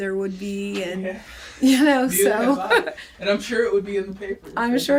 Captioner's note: laughs